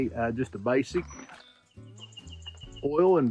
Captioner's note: birds chirping